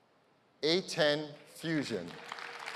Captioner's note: applause